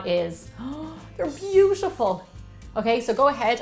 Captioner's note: gasps